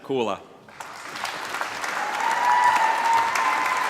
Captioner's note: applause